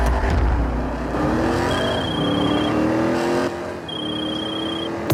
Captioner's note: muscle car engine sound; mobile phone sound